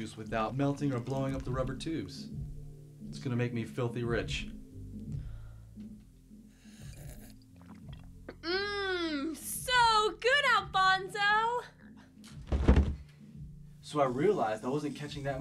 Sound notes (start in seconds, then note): 12.3 body thuds